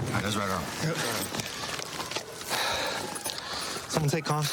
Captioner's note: sirens blaring